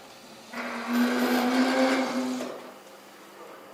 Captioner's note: A droning whir